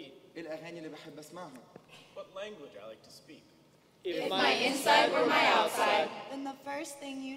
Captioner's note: speaking native language